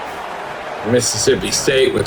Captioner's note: crowd Noises